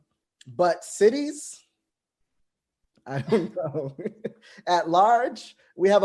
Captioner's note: laughs